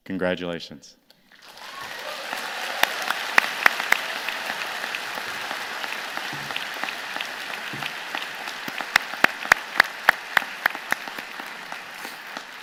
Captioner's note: applause